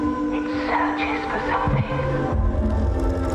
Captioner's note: whispering; offkey music